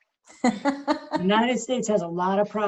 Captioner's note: laughs